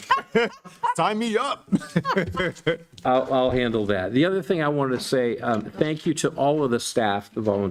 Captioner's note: laughter